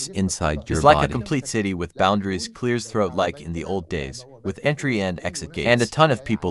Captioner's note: clears throat